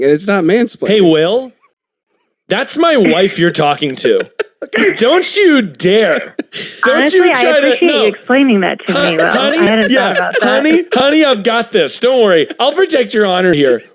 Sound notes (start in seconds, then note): 3.8 cackling